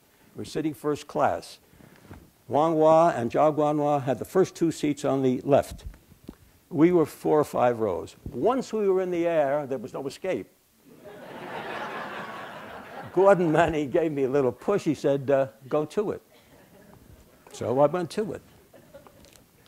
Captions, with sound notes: We're sitting First Class, Huang Wah and Chang Wang La, had the first two seats on the left. We were four or five rows. Once we were in the air, there was no escape. [Laughter] Gordon Manning gave me a little push. He said, ah, go to it. So I went to it.